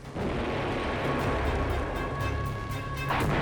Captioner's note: bomb exploding